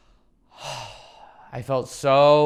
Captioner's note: sighs